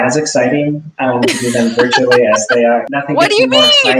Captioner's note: laughing